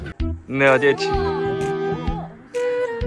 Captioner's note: speaking German